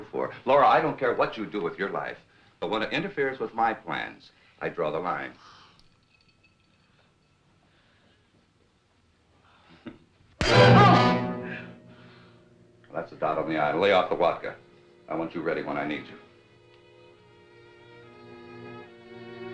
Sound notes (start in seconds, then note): 10.3 gasps; 10.4 dramatic music; 16.6 sad music